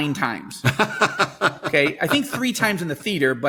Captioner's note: laughing